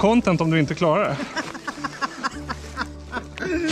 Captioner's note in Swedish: Skratt